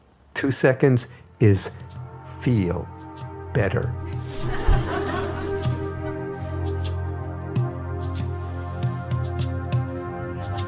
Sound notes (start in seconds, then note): 2.3 laughter